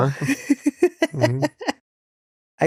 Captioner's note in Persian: خنده